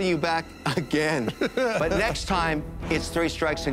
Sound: laughs

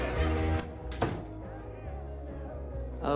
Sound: door closes

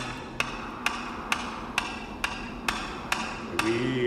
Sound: man's voice singing; hammering sound continues; singing continues

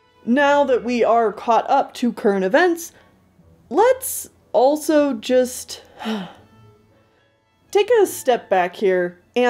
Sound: sigh

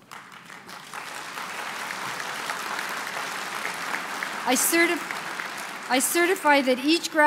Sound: applause

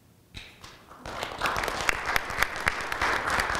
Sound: applause

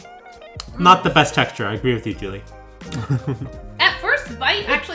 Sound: chuckles

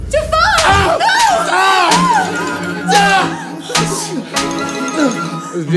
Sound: yelling in pain

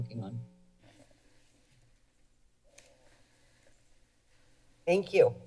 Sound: silence

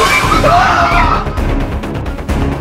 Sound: Shaggy screams; dramatic chase music

